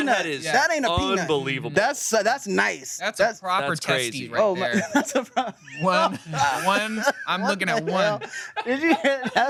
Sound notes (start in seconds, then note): 4.6 laughs